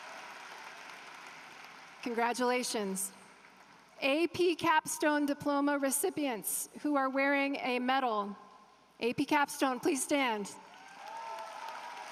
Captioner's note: applause